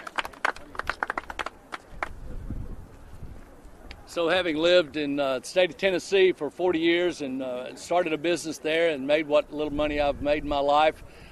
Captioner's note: applause